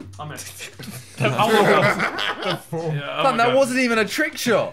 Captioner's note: laughing